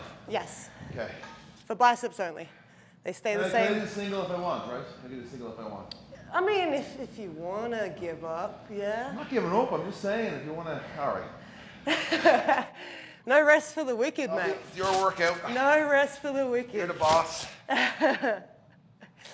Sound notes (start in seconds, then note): 12.1 laugh; 18.2 laugh